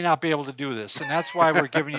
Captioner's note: laughs